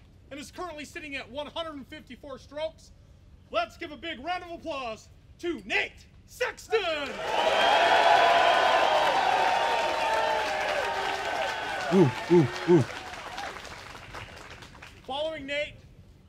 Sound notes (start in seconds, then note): 7.0 applause